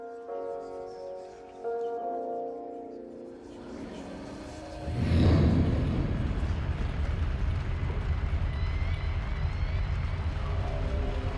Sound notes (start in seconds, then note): 4.5 dark music; 4.8 flames roar